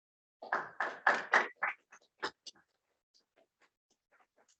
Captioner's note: applause